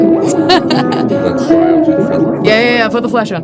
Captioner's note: laughs